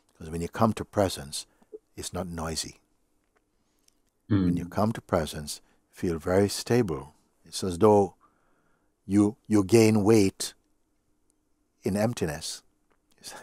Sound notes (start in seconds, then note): none